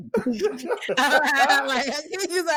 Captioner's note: laughter